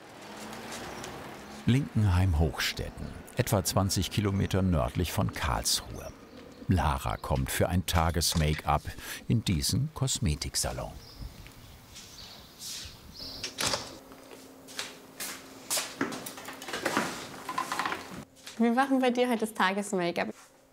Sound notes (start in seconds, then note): 0.3 traffic noise; 11.0 birds chirping; 13.3 door closes